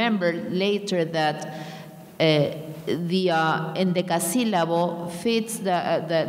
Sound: speaking in a foreign language

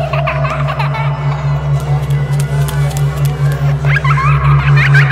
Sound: child laughing hysterically

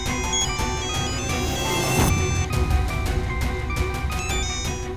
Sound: cell phone ringing

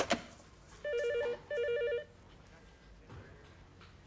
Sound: phone ringing

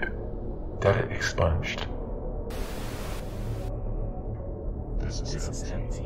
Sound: static

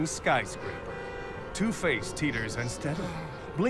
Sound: car horns honk

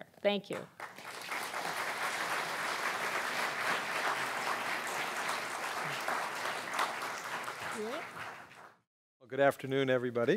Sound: applause

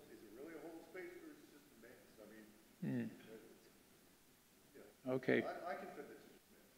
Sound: speaking faintly

